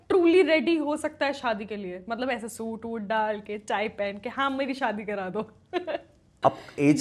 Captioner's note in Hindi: हंसी